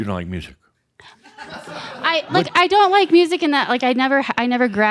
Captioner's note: some chuckles